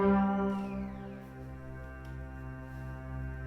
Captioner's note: door creaks